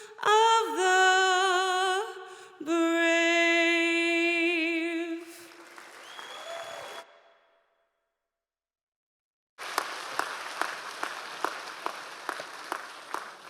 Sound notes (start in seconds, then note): 6.7 audience applause